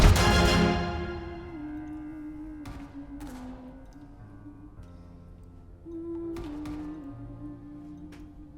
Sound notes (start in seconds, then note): 0.0 Lizzie humming mournfully